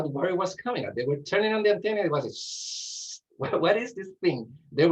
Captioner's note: hissing